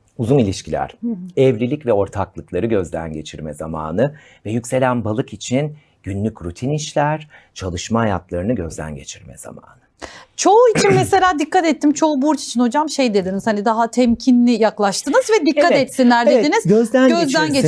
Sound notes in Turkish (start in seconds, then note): 10.8 boğazını temizler